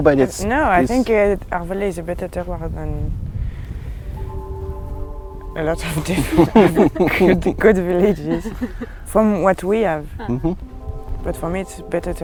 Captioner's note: group laughs